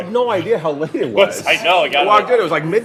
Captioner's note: laughing